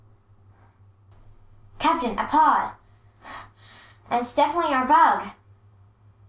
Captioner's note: gasp